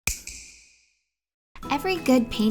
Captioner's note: snap